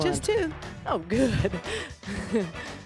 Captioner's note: laughs